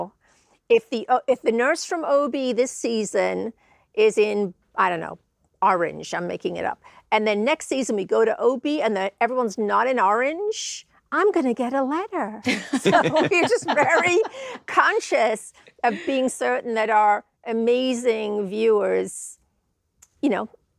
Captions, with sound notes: if the if the nurse from OB this season is in, I don't know, orange-- I'm making it up, and then next season we go to OB and then everyone's not in orange, -I'm gonna get a letter. -(HOSTS LAUGH) So we're just very conscious of being certain that our amazing viewers you know,